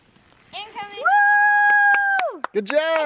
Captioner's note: cheers